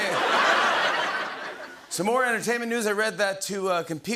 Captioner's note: laughter